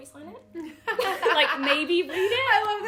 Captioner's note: laughing